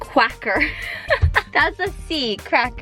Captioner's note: laughs